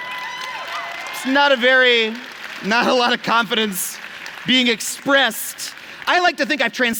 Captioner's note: applause